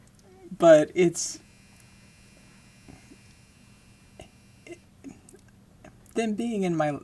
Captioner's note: laundry cycle ending with a loud beep